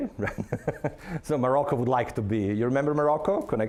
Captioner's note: laughing